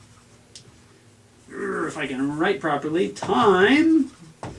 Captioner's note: groans